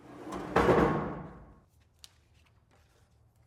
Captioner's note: wood thumps